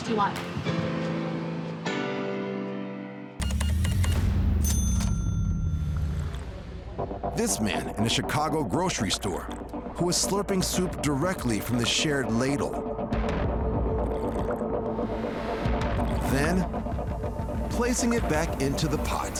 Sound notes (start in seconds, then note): 3.4 beeps; 3.4 register dings; 6.0 slurps; 12.9 tense music; 13.8 slurping